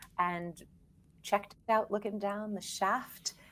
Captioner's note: none